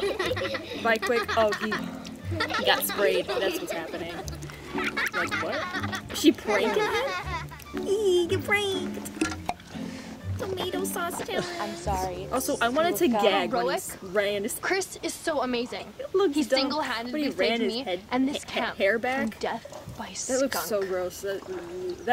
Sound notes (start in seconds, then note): 0.0 giggling; 4.7 continued giggling; 7.6 squeaky voice; 21.4 gags